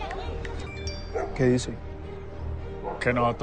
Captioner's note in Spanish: Aviso de mensaje